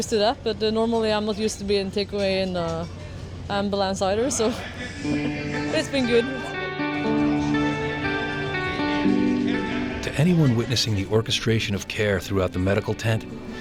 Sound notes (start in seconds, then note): 6.8 uplifting music; 9.9 voiceover